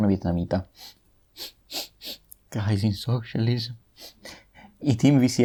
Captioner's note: sniff